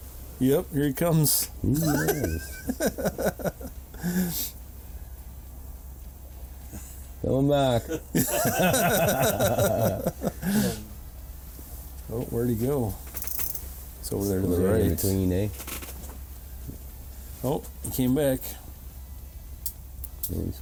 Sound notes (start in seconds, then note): 1.6 laughs; 7.8 all laugh